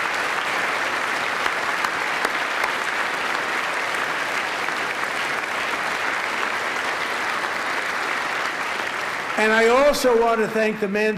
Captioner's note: applause